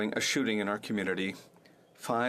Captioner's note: speaking French